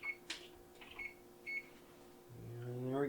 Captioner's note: beep, beep